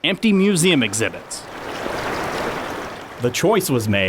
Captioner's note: water flowing